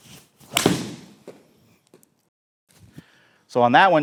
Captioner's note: club smacking